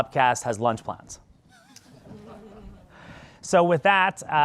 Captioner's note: crowd laughs